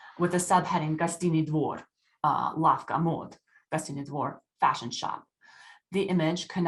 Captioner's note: speaking russian